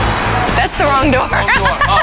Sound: laughs

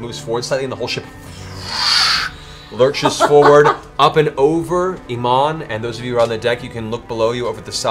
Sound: whoosh

